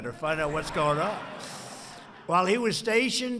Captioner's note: laughter